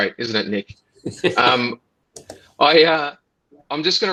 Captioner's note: laughs